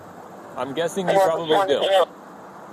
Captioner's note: radio chatter